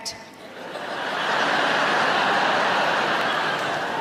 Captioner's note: audience laughing